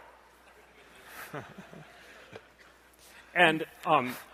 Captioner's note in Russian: смех